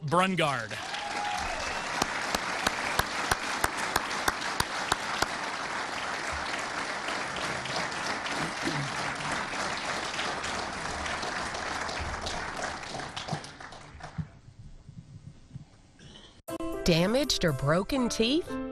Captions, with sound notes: FROM SPRINGFIELD HIGH SCHOOL SOPHOMORE QUARTERBACK BEAU BRUNGARD. [APPLAUSE]